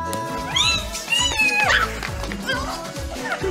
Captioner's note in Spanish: Gritos